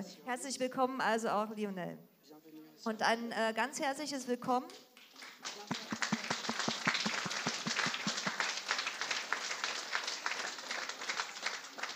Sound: applause

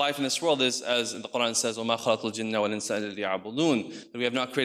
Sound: speaks in foreign language

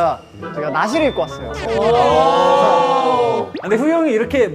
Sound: exclaiming

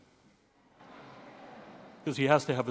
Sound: audience laughing

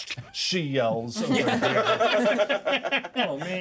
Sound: laughs

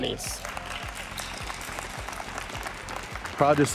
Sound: applause

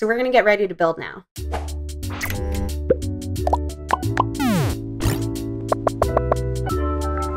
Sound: robotic beeps; robotic clicks

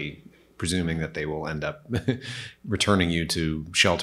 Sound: chuckles

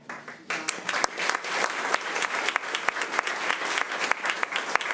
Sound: crowd clapping

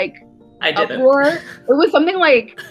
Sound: laughs

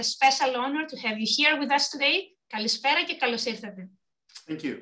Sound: speaking Greek - 2:16

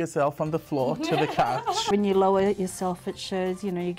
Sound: laughs

